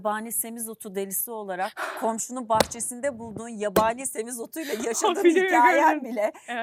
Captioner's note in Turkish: kahkaha